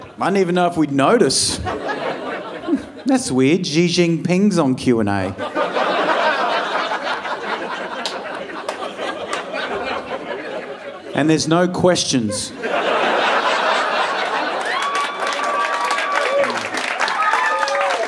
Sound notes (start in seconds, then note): 0.0 audience laughing; 5.8 audience laughing; 13.8 audience cheering and applauding